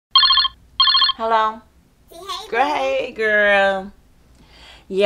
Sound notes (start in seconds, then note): 0.1 phone ringing